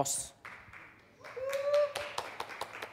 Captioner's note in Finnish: Aplodeja